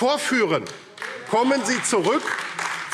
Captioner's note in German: Beifall AfD